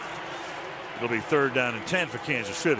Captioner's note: pa announcement